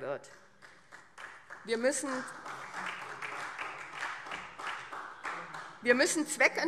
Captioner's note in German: Beifall SPD und vereinzelt Freie Demokraten